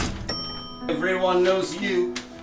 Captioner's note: elevator ding